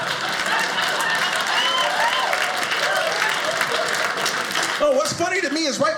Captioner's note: audience laughing; audience applauding